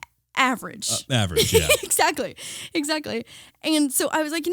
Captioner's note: laughing